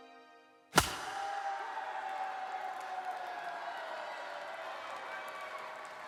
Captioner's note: bat cracks, crowd cheers